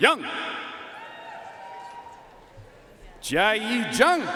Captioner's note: audience cheering and applauding